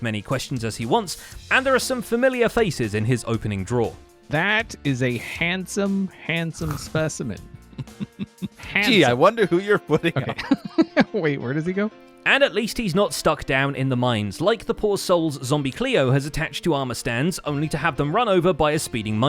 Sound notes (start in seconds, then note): 6.6 chuckling; 10.0 giggles